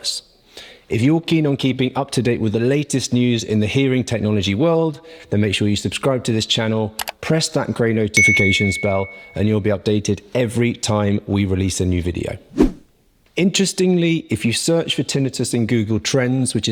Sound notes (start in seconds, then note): 7.3 button pops; 8.2 notification ring; 12.5 swoosh